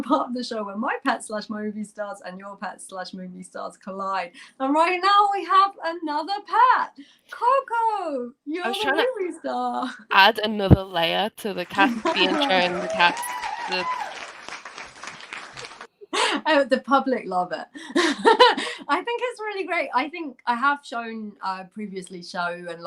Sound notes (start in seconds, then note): 15.5 applause